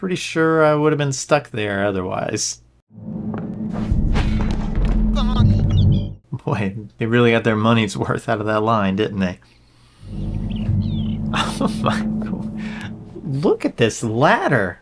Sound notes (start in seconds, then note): 2.8 game audio: "Bonk!"